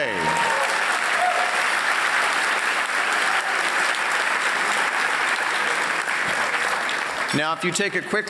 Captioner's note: applause